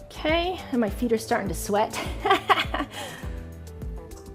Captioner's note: chuckling